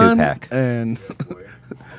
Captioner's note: laughs